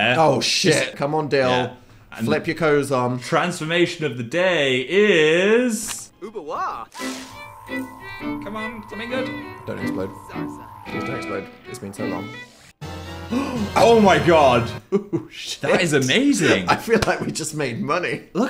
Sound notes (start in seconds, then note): 6.7 Dalien speaking gibberish; 6.9 violin music; 12.5 triumphant fanfare